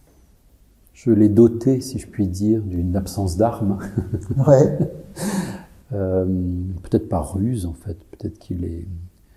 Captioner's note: laughs